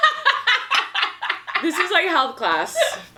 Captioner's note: laughs